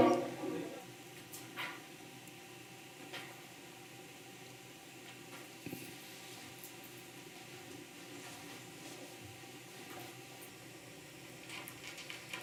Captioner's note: silence